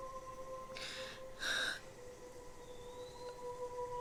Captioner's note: Alora crying